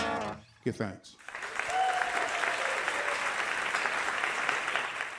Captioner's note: cheers and applause